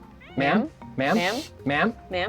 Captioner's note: pat